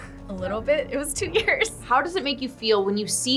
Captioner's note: laughs